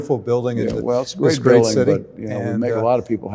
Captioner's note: overlapping chatter